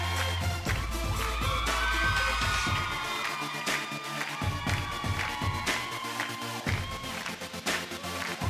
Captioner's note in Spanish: Palmadas al compás; Gritos y exclamaciones; Palmadas al compás